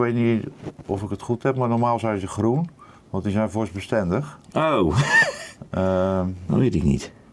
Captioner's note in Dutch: gelach